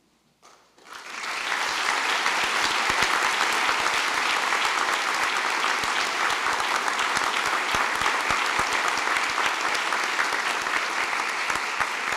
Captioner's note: applause